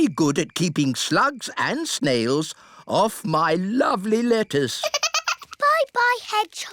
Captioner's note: giggles